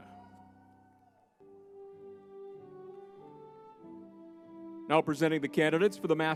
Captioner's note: crowd cheering